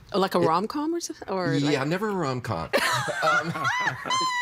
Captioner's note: laughing